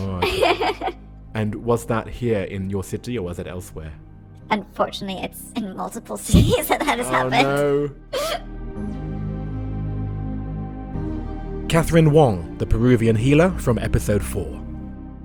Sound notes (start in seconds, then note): 10.0 voiceover